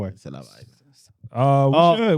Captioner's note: speaking In Foreign Language